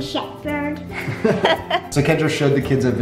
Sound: laughing

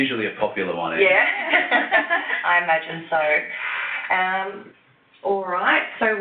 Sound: laugh

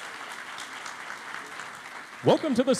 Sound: applause

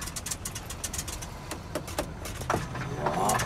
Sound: tapping

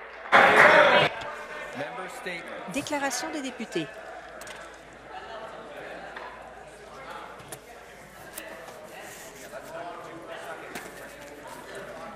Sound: cheers

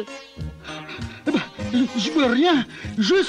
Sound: panting

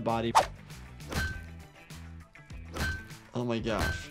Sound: metal clanking

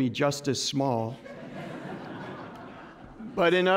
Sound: laughter

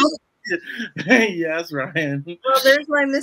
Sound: laughs

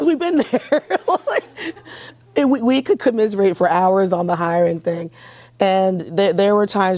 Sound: laughs

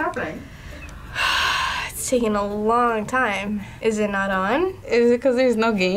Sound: sighs

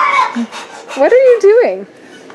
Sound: child screaming; rapid breathing

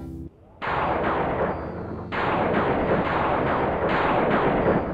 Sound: lightning crashing

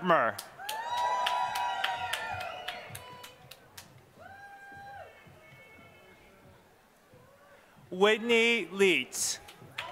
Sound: applause; applause

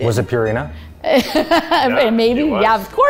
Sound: laughs

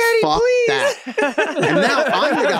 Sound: group laughs; imitating kids

